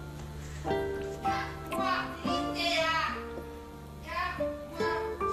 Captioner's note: nana speaks gibberish